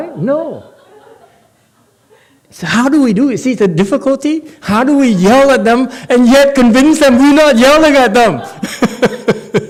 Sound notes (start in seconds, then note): 8.2 laughs